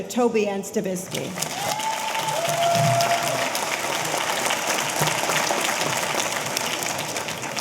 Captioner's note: audience applauding; audience cheering